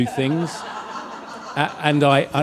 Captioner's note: audience laughs